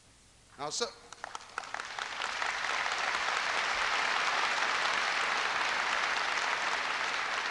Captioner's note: applause